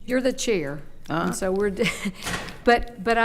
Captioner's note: door opens; chuckles